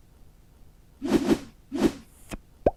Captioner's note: sfx:whoosh; sfx:pop